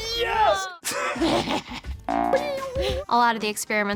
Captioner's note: laughs